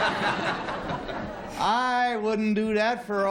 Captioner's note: laughter